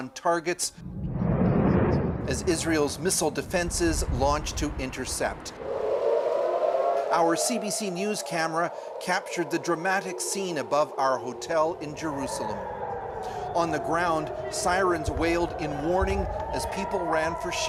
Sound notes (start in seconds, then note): 11.9 sirens; 15.8 sirens